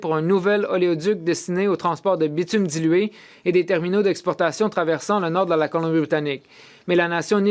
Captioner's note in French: voix de l'interprète